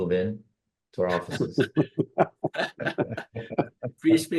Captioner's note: laughter